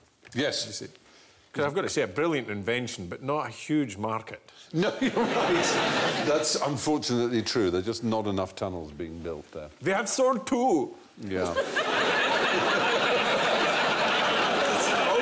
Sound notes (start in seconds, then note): 9.8 German accent; 11.4 laughter